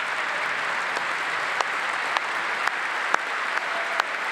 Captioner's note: applause